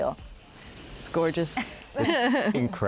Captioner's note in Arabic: يضحك